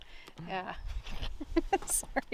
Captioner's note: laughing